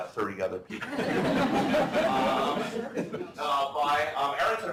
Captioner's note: laughter